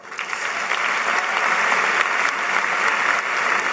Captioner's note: applause